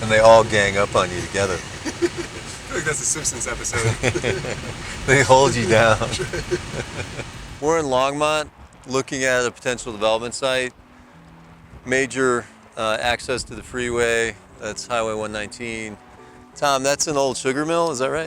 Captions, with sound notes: - And they all gang up on you together. - (laughs) I feel like that's a Simpsons episode. - (laughs) They hold you down. We're in Longmont looking at a potential development site. Major access to the freeway, that's Highway 119. Tom, that's an old sugar mill, is that right?